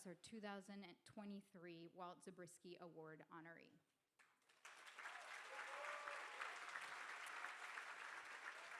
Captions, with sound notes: as our 2023 Walt Zabriski Award honoree. (crowd cheering and applauding)